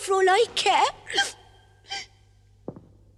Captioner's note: cries